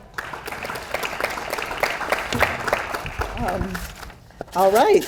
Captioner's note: audience applauds